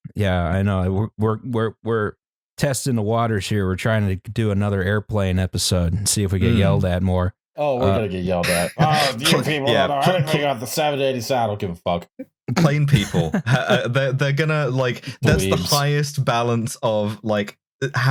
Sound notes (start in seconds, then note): 8.4 laughs; 8.4 continues angry grumbling; 8.8 angry voice